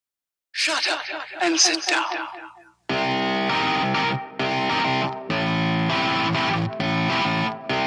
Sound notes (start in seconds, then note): 0.5 echo